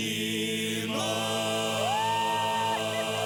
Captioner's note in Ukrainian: оплески